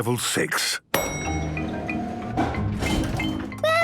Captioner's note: elevator dings